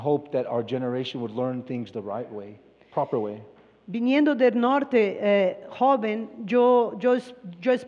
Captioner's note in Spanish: Expositor habla en inglés